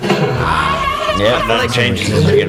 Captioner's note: shrieks